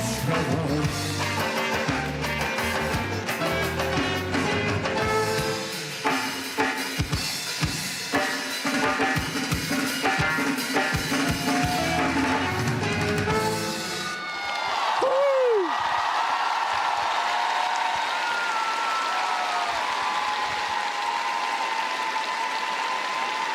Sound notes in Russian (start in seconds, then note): 5.6 ликование; 14.2 аплодисменты